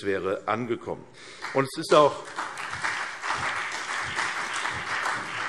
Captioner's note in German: Beifall CDU und BÜNDNIS 90/DIE GRÜNEN